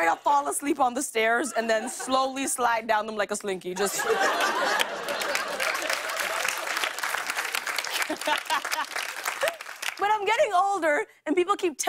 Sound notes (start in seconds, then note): 3.8 laughter and applause; 7.8 laughs